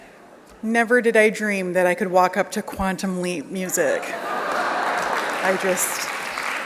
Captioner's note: laughter